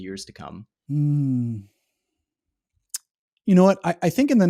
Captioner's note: hums